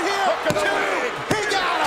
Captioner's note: hand pounding